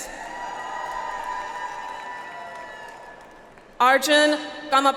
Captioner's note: audience applauds